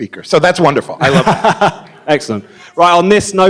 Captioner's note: laughing